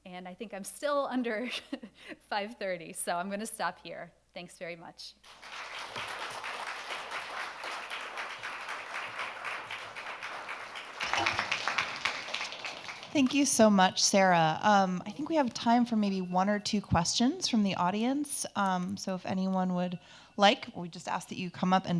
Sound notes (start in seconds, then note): 5.2 audience applauding